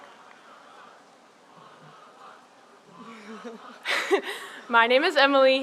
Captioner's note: audience cheers